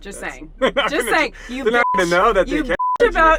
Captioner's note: laughs